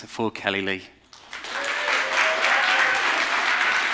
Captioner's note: applause